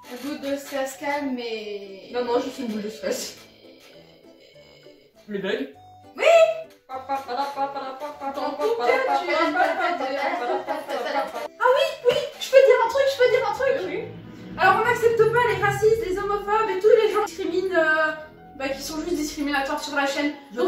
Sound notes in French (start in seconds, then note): 11.1 Petit rire